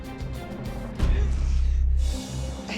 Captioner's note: Maddie sniffles